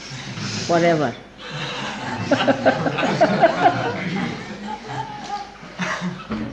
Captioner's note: laughing